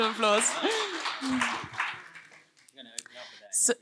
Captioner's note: applause